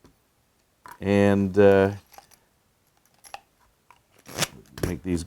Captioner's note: bits clanking